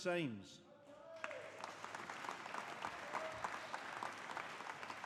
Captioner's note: audience applauding